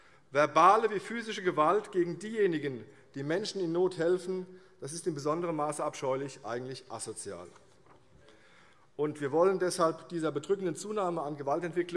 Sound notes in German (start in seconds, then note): none